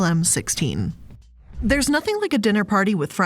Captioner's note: soft jazz music; air whooshing